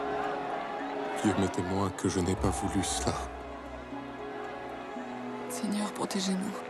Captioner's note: gentle music; Louis XVI speaking in French; Marie Antoinette speaking in French